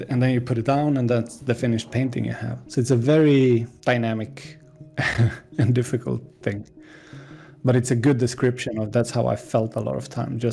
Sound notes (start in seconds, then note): 5.0 laughs